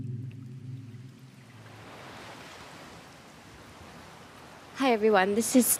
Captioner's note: sound of waves